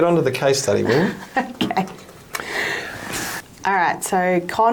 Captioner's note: chuckles